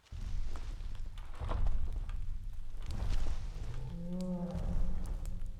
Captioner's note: muffled sounds of a bear stomping in the forest